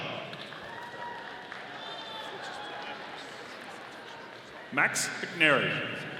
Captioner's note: audience applauding